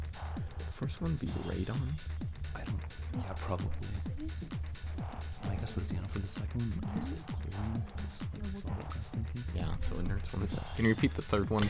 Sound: whisperiing

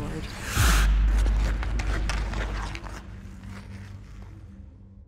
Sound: scraping, low music

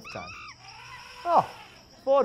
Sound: monkey and elephant sounds

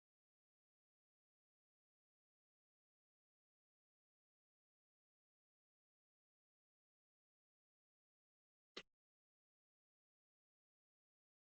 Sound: pause

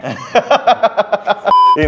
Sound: man laughs

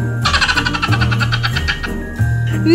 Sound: Elf on the Shelf Laughing

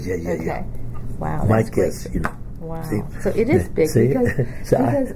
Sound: laughs

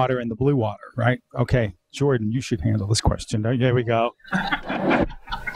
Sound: audience laughs

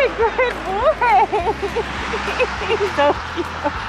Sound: laughing

